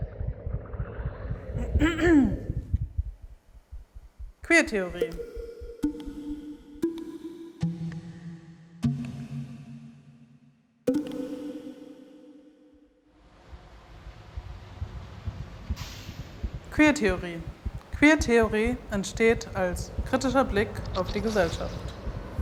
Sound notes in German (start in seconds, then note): 1.7 Räuspern; 5.7 Plopp